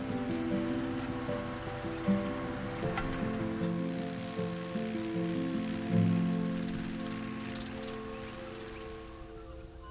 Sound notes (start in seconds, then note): 0.2 soft music continues; 5.2 machine whirs